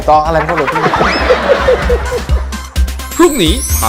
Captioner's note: laughter